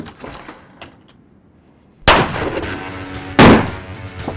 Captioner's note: gunfire